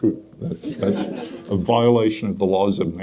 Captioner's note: audience laughs